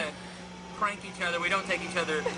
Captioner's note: laughter